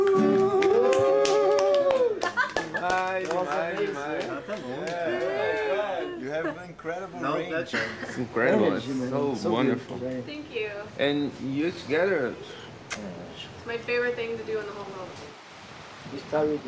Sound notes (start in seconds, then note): 0.0 all cheering and clapping; 3.0 speaking in foreign language